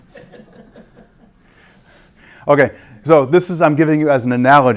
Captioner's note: laugh